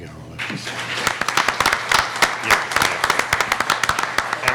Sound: applauding

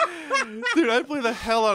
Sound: laughs

